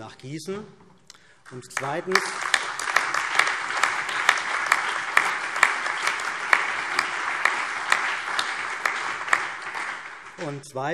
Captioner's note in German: Allgemeiner Beifall